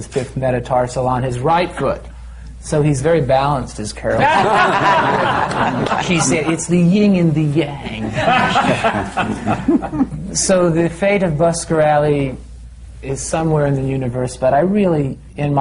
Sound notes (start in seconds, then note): 3.7 laughter; 5.2 does tommy’s voice; 8.0 laughter